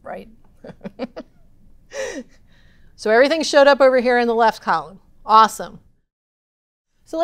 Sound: laugh

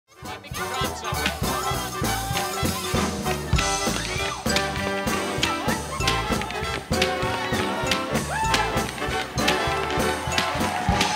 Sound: jump ropes, tap dancing, cheers, instrumental music

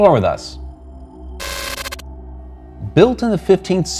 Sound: static buzzing and crackling

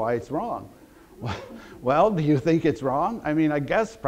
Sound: audience laughter

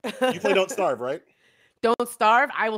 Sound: laughs

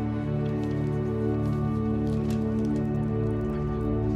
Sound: papers rustling

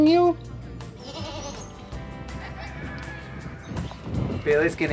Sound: goat baa

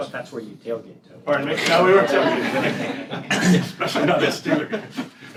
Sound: laughter

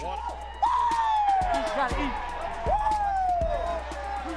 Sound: cheering

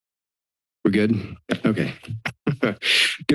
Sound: chuckles

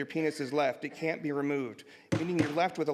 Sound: murmuring and gavel bangs

